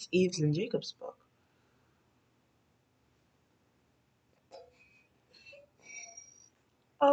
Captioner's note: moments of Silence